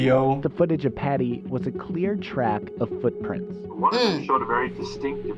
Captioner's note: grunts